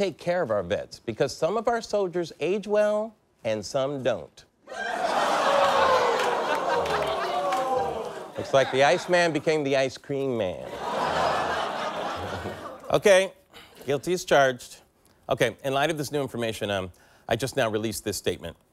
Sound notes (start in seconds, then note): 8.4 audience reacts